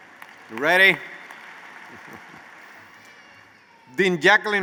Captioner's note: chuckles